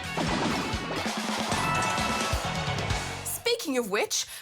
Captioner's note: cheering